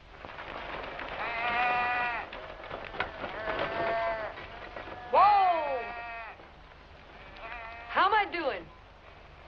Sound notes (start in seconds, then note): 1.3 sheep bleating